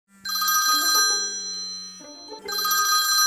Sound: phone ringing

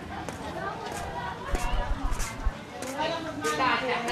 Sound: clattering

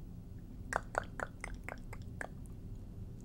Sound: tongue clicking sounds

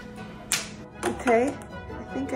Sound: snap

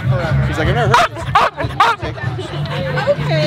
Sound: Winston barks

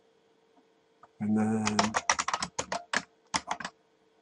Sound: keyboard clicks

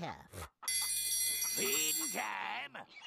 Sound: bell ringing

